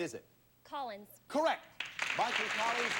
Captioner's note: audience applauding